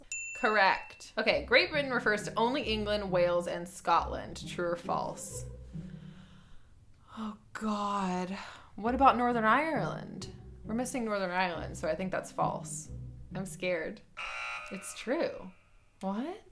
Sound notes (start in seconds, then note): 0.0 bell dings; 14.1 buzzer sounds